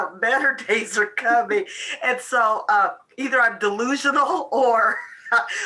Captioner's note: laughs